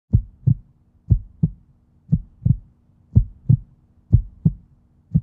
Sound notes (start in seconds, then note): 0.1 heartbeat sound